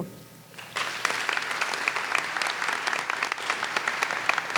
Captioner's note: audience applauds